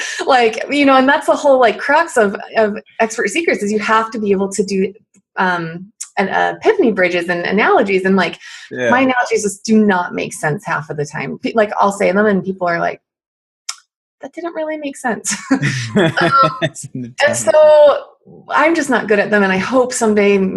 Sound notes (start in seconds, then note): 15.6 laughs